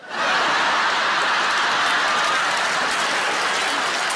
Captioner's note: audience claps